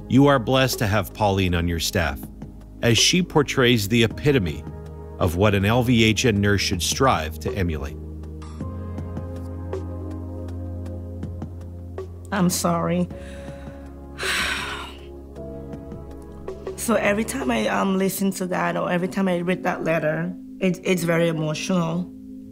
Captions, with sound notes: You are blessed to have Pauline on your staff, as she portrays the epitome of what an LVHN nurse should strive to emulate. (gentle music) - I'm sorry. (sighs) So every time I listen to that, or every time I read that letter, it's very emotional.